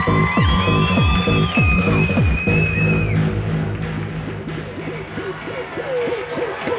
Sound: techno; cheering

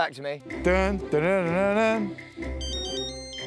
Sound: hums groovy blue ringtone

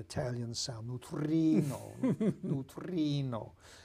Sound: Italian accent

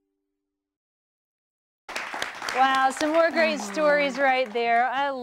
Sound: �applause�

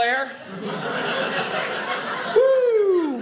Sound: audience laughing

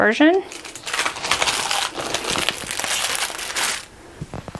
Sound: stickers crinkling

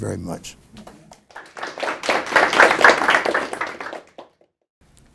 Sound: audience applauds

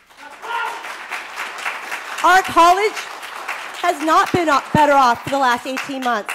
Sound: applause

